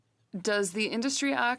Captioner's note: speaking in French